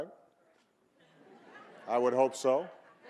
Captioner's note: audience laughing